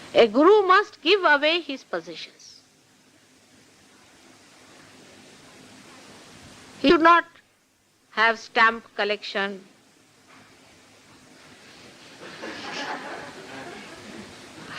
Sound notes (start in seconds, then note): 12.2 laughter